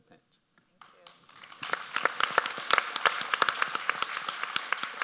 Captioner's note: audience applauds